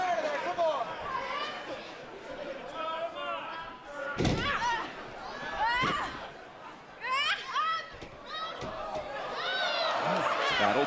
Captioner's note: crowd cheering